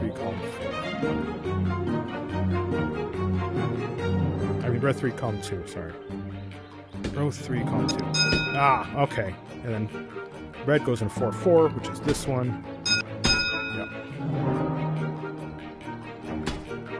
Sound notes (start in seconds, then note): 8.4 ding